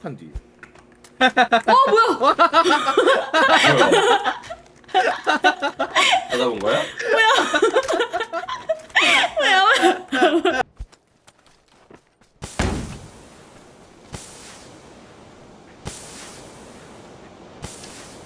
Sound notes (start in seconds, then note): 1.2 laugh